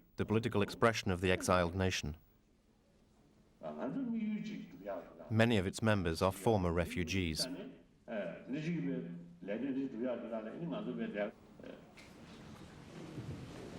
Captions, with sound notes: It's the political expression of the exiled nation. Many of its members are former refugees. [Tibetan spoken audio]